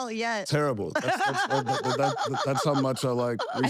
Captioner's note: laugh